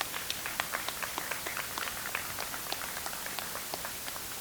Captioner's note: audience applauds